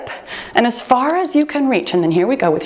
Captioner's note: timer beeps